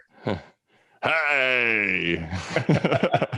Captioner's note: laughs